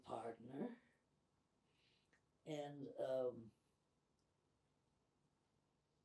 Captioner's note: pauses 4 seconds